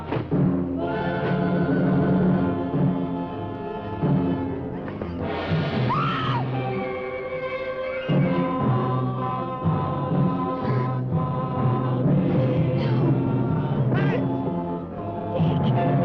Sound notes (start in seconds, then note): 5.8 Pat screaming; 8.9 singers vocalizing